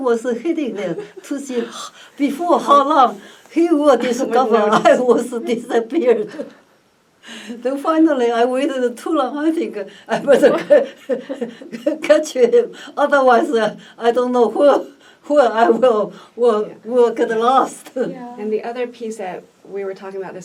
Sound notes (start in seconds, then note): 0.0 laughs; 10.1 laughs